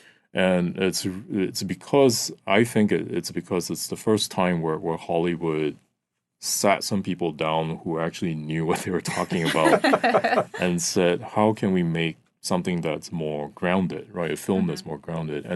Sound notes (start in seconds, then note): 8.7 all laughing